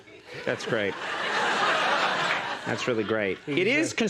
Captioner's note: audience laughs